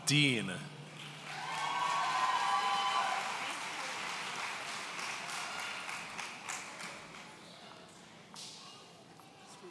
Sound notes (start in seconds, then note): 1.2 audience cheering